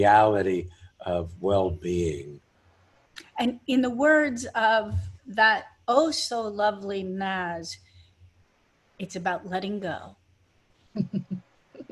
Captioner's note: laughing